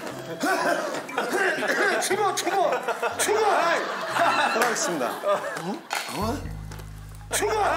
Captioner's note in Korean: 쿨럭